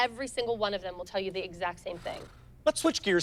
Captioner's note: sighs